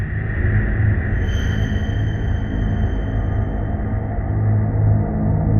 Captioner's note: piercing frequency